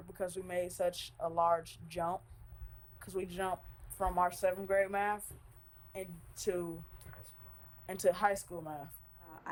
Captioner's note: none